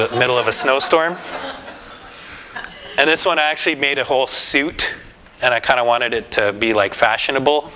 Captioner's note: laughter